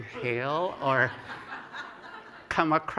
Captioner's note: laughter